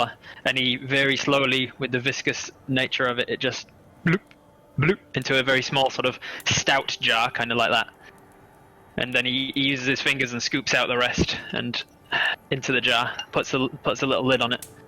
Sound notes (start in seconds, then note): 4.0 bloop, bloop